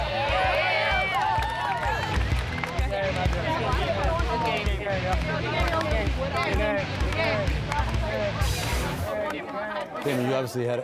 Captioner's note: team chatting